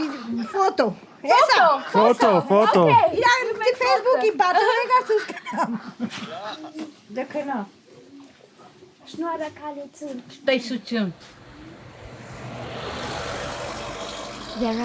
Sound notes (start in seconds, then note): 3.2 laughing; 3.2 speaking Armenian; 10.9 in Armenian